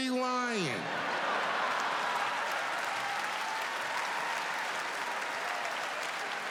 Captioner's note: audience cheering and clapping